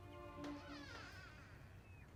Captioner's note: door creaks